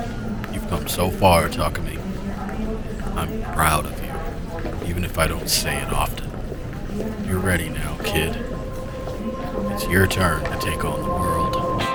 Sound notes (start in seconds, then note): 0.9 whispering to himself, almost inaudibly